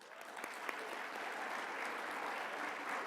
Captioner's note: applause